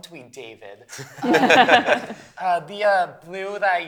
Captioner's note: laughter